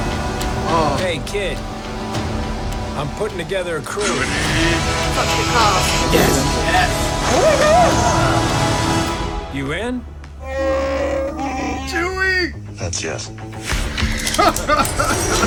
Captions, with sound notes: Hey, kid. I’m putting together a crew! Woody! Yes! Yes! Oh my God! You in? [Wookiee roar] Chewie! That’s yes. [Laughing]